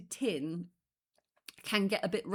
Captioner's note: none